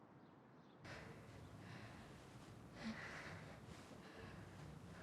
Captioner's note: person heavy breathing